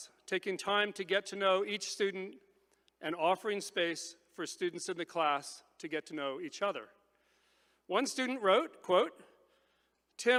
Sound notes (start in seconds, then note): none